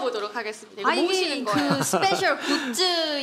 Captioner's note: laughter